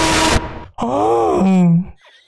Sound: sarcastic imitation

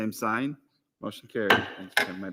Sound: gavel raps

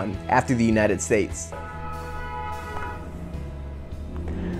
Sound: honk

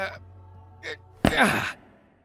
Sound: pained grunt; grunt

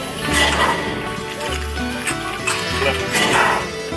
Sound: engine huffing

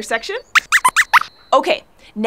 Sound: squeaks squeaks

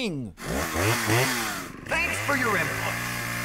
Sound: starts Chainsaw

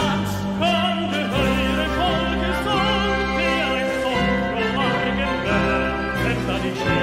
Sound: Norwegian

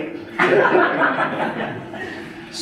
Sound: audience laughing

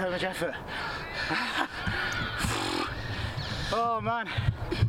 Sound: tired noises

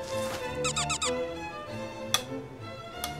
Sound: Scratch

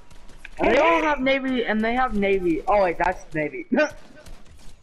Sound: chuckle

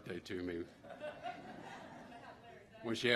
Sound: laughter

